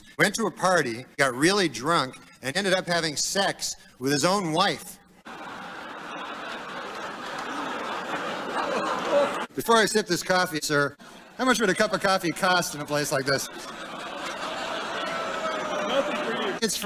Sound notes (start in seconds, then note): 5.2 laughter; 13.8 laughter, oohs, boos